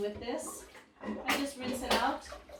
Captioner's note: water bubbling